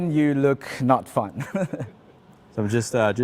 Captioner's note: laughs